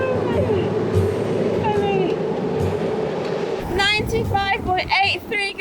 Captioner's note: muttering happily